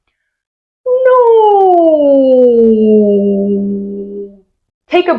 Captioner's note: pitch glide